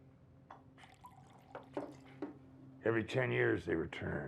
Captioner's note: alcohol sloshing